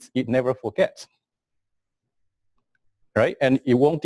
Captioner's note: pause